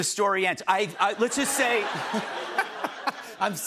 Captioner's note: laughter